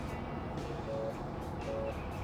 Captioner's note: phone ringing